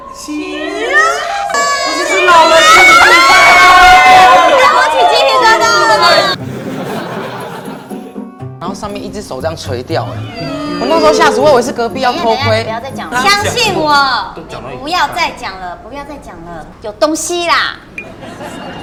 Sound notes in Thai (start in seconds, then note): 6.3 หัวเราะ